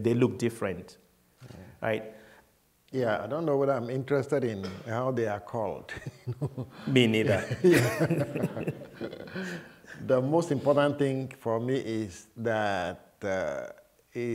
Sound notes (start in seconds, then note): 7.2 laughter